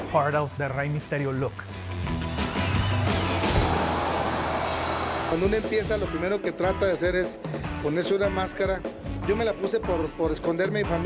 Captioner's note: Rey Misterio speaking Spanish